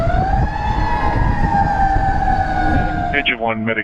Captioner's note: sirens wailing